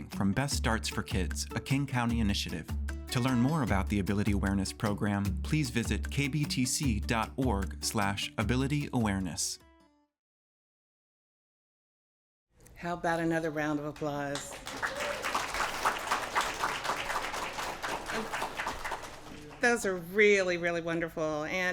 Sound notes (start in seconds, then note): 13.9 applause